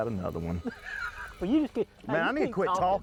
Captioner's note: laughs